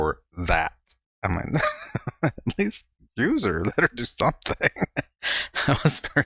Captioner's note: chuckling